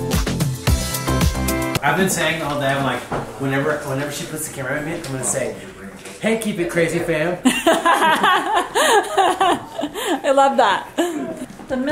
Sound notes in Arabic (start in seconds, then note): 7.4 يضحك